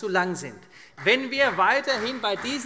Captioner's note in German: Beifall CDU und Freie Demokraten